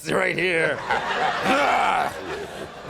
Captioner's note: grunts; audience laughs